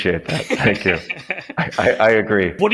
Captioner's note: people laughing